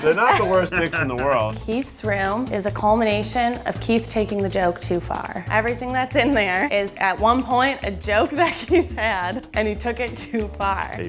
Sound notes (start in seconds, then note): 8.0 laughs